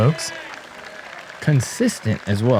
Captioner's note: applause